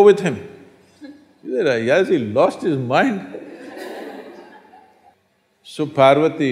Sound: laughter

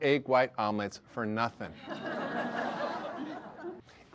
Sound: audience laughter

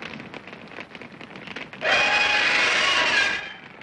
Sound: screams

